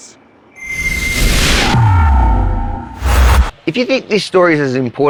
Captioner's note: buzzing sound